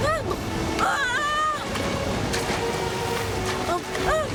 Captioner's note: yells